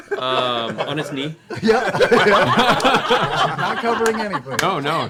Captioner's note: laughter